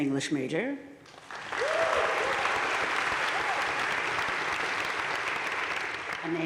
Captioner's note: crowd cheering and applauding